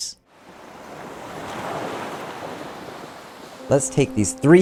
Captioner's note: water whooshing